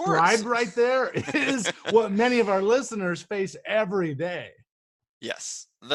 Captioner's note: laughing